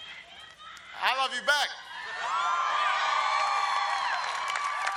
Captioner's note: audience cheers